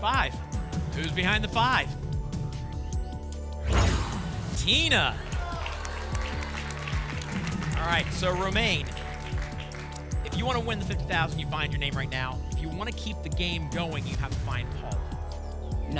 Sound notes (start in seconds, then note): 3.6 whoosh; 4.8 applause and cheering